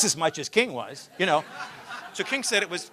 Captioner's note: laughter